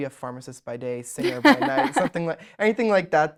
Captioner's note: laughs